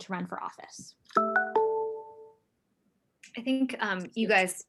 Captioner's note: beeping